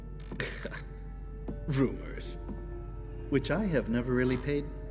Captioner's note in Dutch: lacht